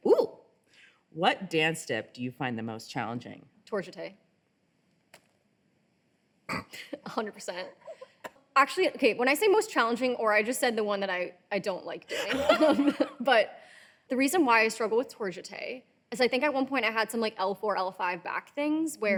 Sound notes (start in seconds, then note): 5.1 laughing